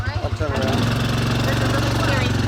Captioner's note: quad engine roars